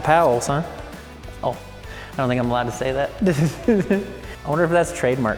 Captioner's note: chuckles